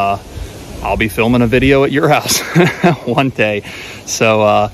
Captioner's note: laughs